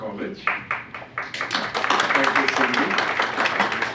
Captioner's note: audience applauds